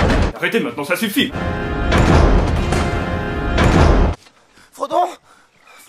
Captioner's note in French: Portes qui se ferment